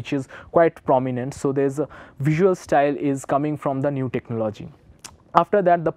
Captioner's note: vocalizes-noise